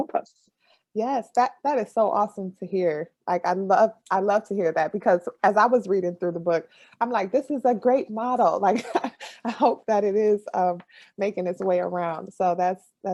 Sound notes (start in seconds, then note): 9.3 laughs